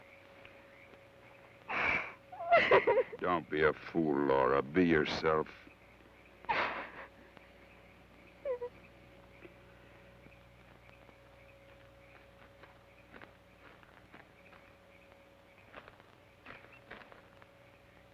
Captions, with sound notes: (sobs) - Don't be a fool, Laura. Be yourself. (Laura sobs)